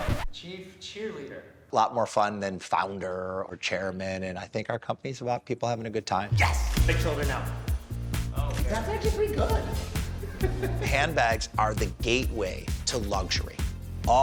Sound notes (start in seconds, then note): 10.2 laughs